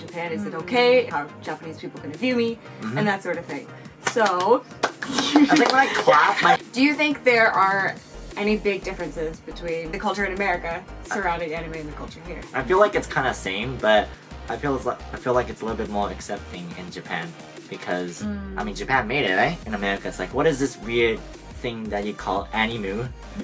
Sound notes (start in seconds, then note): 4.8 clapping